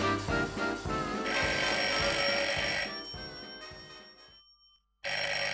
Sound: phone ringing

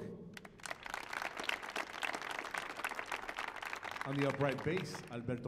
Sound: audience applauding

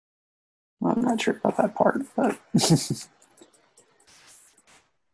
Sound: laughs

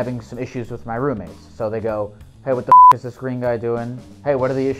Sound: beep

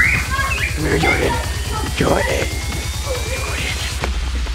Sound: zombie growling

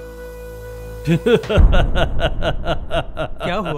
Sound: laughs

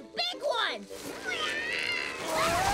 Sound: grunting

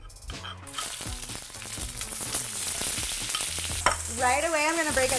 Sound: upbeat music; food sizzling

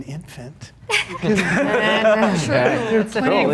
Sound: laughs

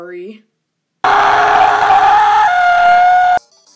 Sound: slowed down screaming

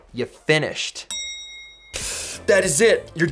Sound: ding

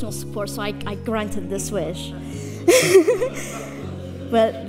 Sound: laughs

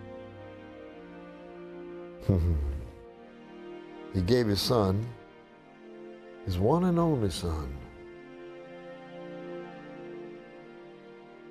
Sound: chuckling

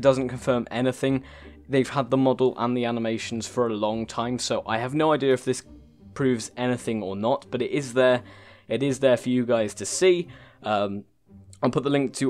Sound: long gasp for breath

